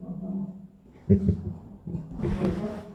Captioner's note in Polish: śmiech